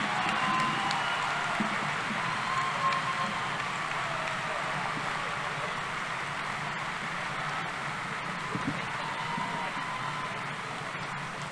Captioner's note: cheering